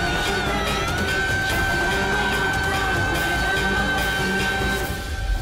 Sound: chants

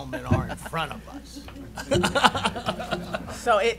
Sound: laughing

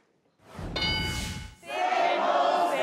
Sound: ding sound

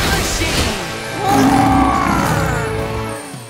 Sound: roaring

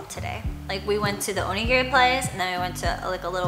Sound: foreign language

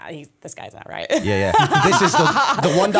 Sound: chuckle

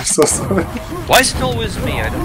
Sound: laughing

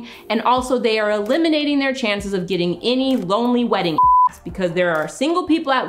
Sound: beep

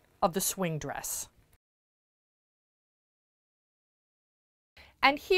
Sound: no Sound Present

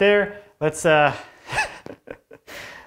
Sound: laughs

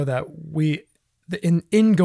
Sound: none

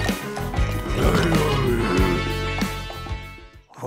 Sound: golem speaking

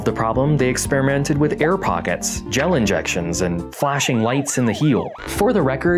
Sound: siren

